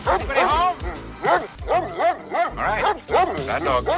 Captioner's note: dog barking